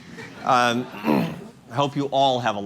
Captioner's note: laughter